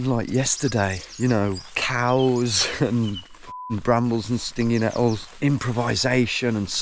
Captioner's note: beep